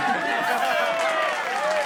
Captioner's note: all cheering